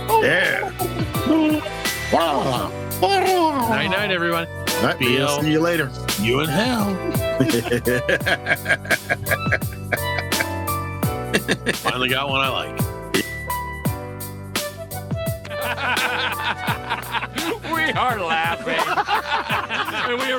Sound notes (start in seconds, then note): 1.0 grunting; 6.5 laughing; 13.6 laughing; 19.1 laughing